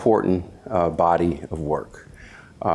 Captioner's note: none